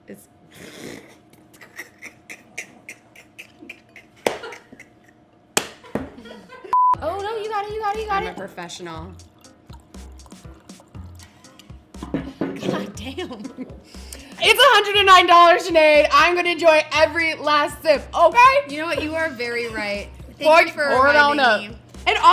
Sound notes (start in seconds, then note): 1.3 laughs; 9.2 wine pours; 12.4 laughs